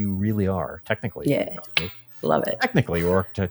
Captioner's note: clicks tongue